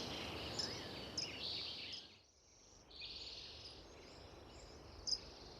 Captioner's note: bird chirping fades